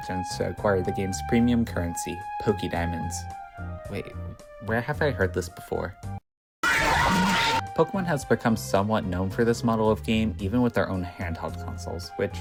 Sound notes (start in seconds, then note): 6.6 Pokemon Rumble World jumpscare